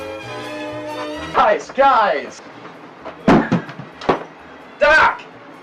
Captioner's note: computer dropping